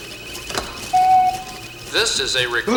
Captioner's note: machine beeps